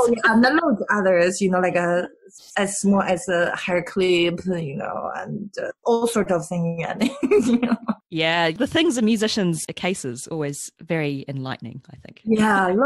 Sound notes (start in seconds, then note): 7.1 laughs